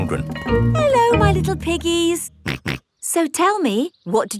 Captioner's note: snorts